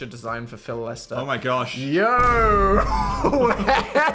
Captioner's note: laughs